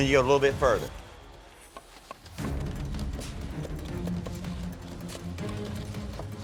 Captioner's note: nervous music; mixer engine chugging